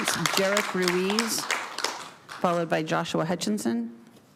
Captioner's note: applause